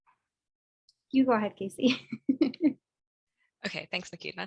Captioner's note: chuckles